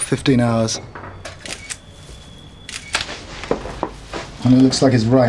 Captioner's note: camera shutter clicking